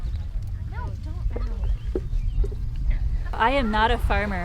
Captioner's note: pickers chattering